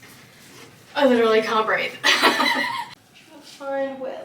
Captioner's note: laughs